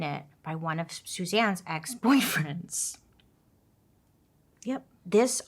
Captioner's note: laughs